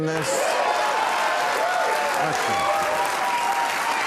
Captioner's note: audience cheering, applauding